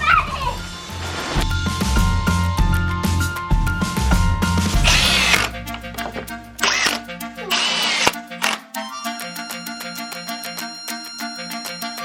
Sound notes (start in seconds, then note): 6.6 power drill screaming; 9.1 playful music